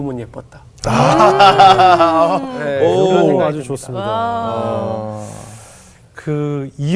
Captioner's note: laughing